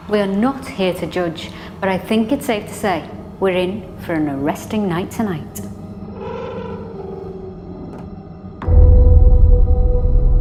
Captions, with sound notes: We're not here to judge but I think it's safe to say we're in for an arresting night tonight. (door creaking)